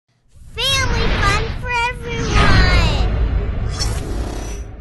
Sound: voiceover

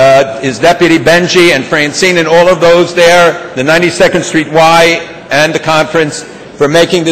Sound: none

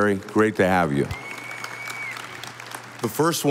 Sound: audience applauding

